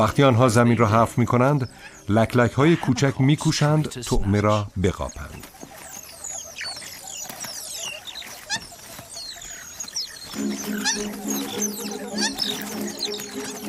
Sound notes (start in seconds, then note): 7.9 chirps; 10.4 chirping